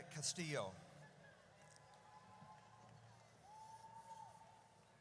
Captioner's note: audience cheers